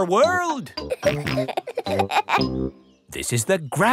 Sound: peppa and george laughing

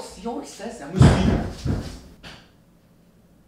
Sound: rumbling sounds

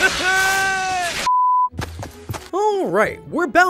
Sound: monitor beeps

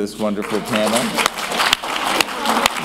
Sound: applause

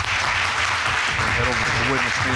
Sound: applause

